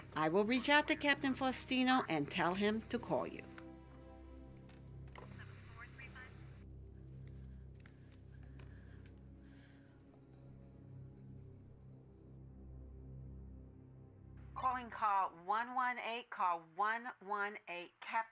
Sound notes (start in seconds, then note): 4.9 phone receiver put back on cradle